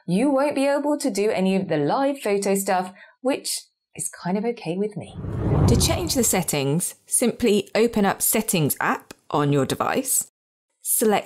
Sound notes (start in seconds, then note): 5.0 screen whooshes